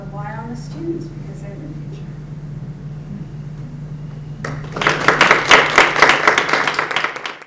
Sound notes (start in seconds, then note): 4.4 audience applauding